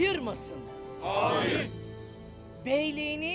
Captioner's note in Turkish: Hep bir ağızdan